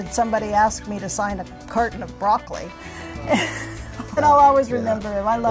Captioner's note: laughs